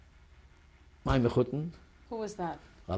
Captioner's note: non-english